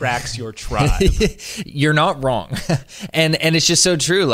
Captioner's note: laughs